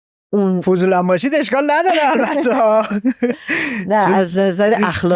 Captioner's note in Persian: خنده